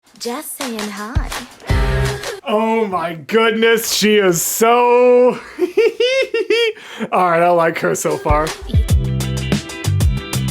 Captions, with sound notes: Oh my goodness she is so... [laughter] alright I like her so far.